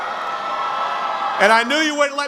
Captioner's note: cheering